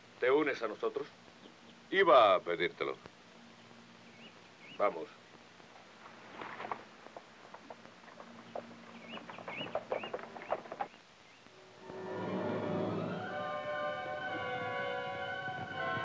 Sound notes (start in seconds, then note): 11.5 solemn music; 12.3 fire crackling